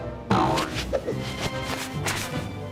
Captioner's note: sail boings